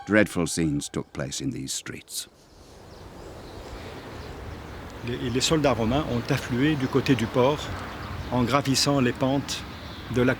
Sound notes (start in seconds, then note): 5.1 speaking French